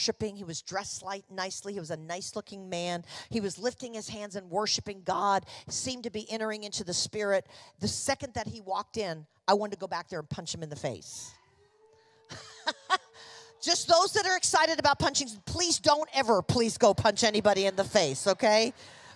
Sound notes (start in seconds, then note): 11.0 congregation reacting; 12.3 chuckling